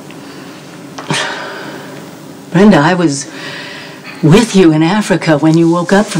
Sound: sighs

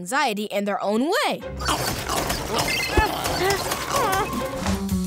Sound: growling

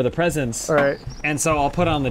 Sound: bonk

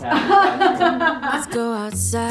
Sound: laughing; upbeat music

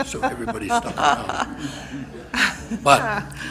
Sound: laughs

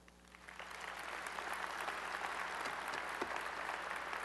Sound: applause

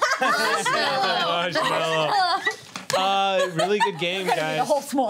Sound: laughter

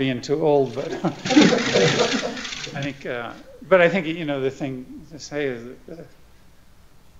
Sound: laughter

